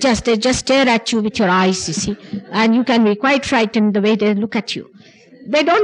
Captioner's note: laughter